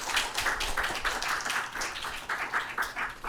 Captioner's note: applause